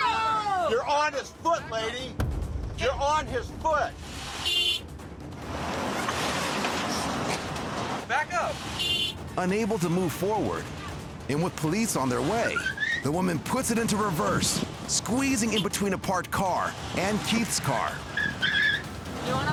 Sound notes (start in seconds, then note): 4.3 horn blares; 8.6 horn blares; 18.3 tires squealing